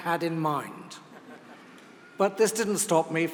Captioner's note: laugh